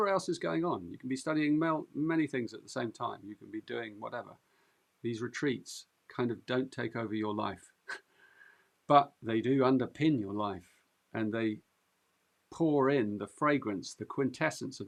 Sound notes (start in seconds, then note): 7.6 chuckles